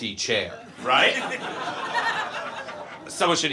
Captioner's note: audience laughs